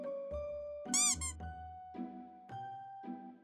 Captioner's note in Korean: 폴짝